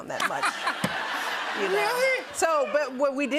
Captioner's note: laughter